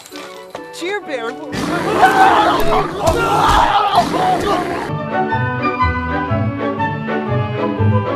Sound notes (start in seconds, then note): 1.5 bear roaring, screaming; 5.9 jovial music